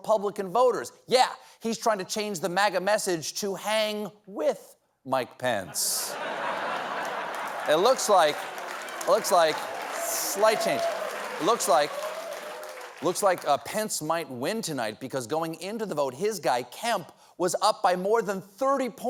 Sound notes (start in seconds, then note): 4.9 applause; 5.6 laughter